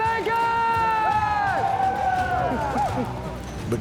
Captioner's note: men cheering